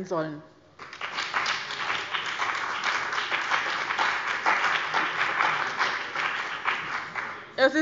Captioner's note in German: Beifall bei dem BÜNDNIS 90/DIE GRÜNEN und der CDU